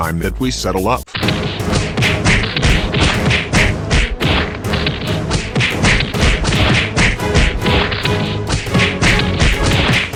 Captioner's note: fighting, punching, kicking